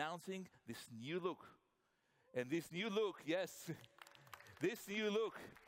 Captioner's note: applause